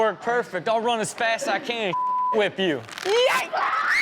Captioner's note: beep; girl screams